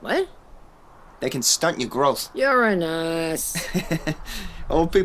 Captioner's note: laughs